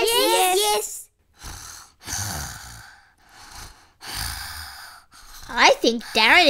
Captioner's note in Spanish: ronquidos